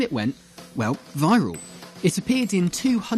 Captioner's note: ding